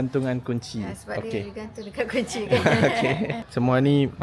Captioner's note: laugh